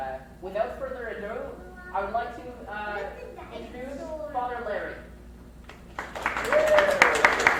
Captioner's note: audience claps